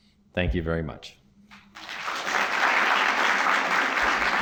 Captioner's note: applause